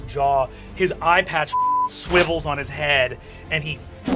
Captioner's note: beep